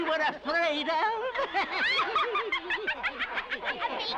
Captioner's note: laughter